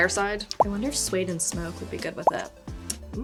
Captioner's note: image popping